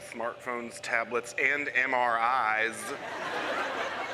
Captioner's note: laughter